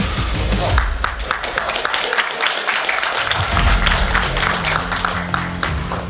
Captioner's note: audience clapping; man taps